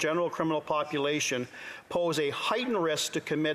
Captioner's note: speaking alternate language